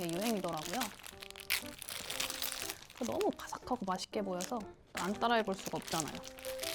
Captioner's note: crunch